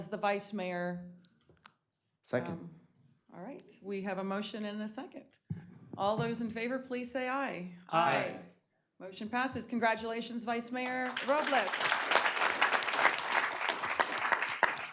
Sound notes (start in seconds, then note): 11.7 chorus of ayes